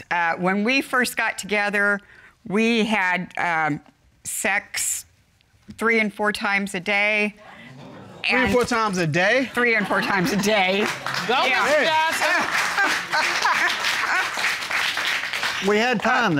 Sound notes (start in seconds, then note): 7.6 audience exclaims; 12.7 Judge Dana laughs